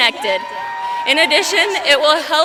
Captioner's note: applause